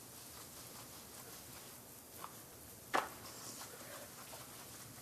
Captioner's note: brush scrubbing